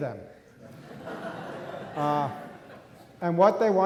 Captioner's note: audience laughing